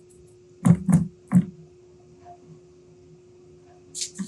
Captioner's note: box thudding